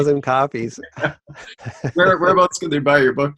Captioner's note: laughs